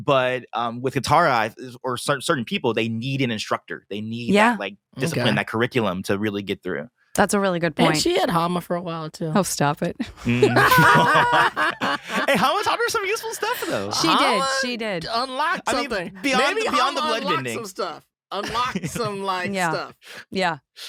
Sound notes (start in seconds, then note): 10.2 laughing